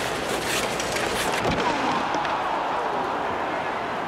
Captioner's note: cheering